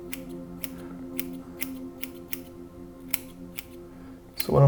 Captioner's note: scissors snipping